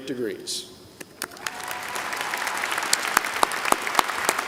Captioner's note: applause